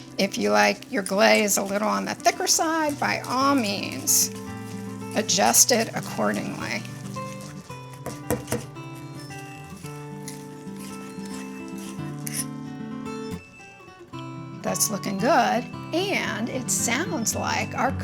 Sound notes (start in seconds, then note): 7.2 gentle music continues; 8.0 whisk whirring